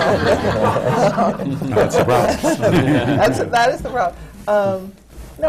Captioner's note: laughter